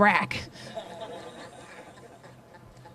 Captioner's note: laughter